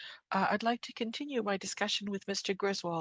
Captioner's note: speaking French